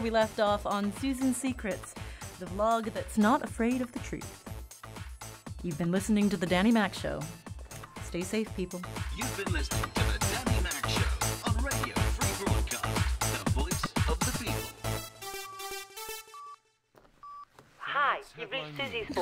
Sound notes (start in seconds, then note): 9.7 voiceover; 17.2 beeps; 18.4 announcer tells the news